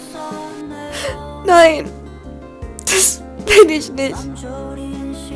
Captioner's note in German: crying